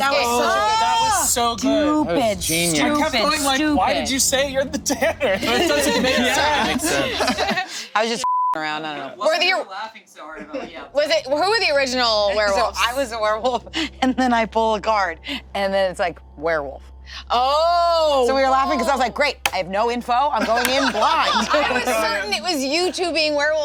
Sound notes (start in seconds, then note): 4.8 group laughing; 8.2 beep; 20.4 group laughing